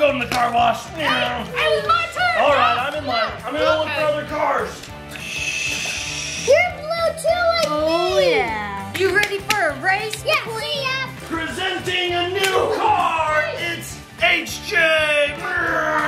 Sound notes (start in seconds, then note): 5.1 air hissing